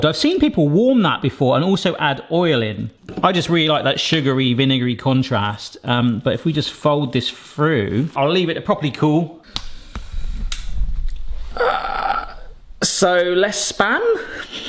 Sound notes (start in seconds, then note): 11.5 grunting